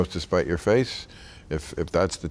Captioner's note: none